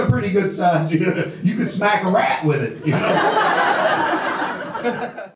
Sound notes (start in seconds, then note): 0.9 laughs; 2.7 audience laughter